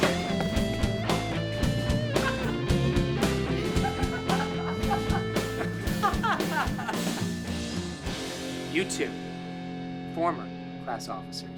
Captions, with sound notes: (Ezra laughing) (Mr. Lund laughing) - You two, former class officers.